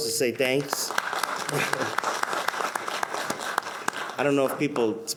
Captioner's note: everyone applauds